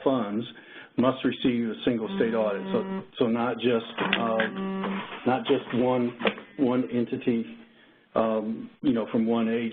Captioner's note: cellphone buzz